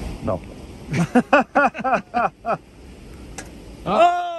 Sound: laughing

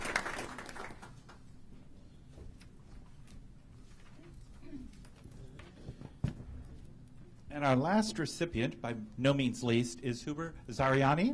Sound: applause

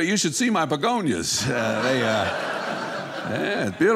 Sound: audience laughing

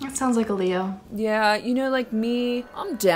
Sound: ominous noise

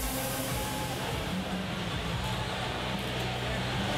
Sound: cheering

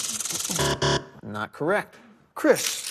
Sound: buzzer

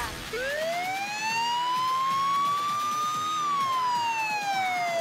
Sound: A loud siren goes off,right away!

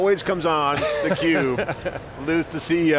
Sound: laughter

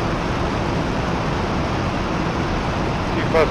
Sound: engine whirring

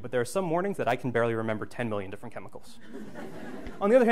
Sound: background laughter

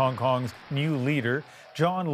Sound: applause

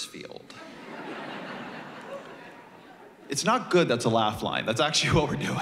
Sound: laughter

